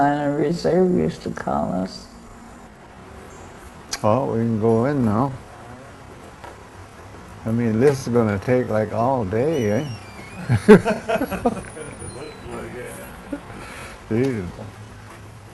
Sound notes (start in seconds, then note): 9.4 laughing